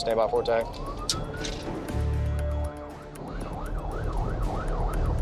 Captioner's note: siren wailing